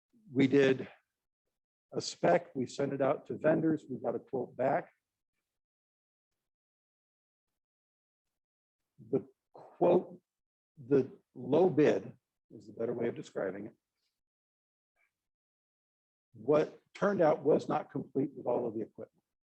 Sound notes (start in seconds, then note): 5.0 no audio detected